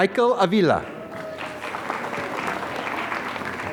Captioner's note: applause